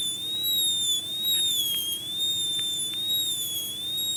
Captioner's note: dental drill